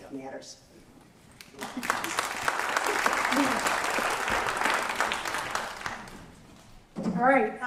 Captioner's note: applause